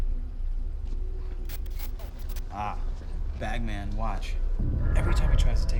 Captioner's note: static crackles